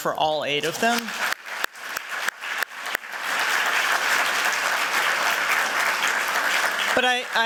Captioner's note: applause